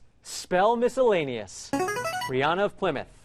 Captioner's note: ringer